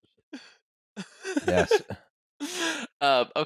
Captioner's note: laughter